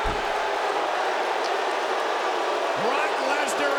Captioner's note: crowd booing